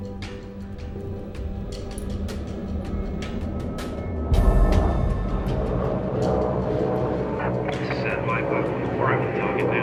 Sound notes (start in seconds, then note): 4.2 airplane engine roaring